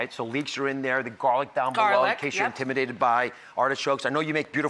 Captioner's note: none